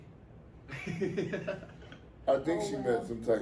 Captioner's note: laughs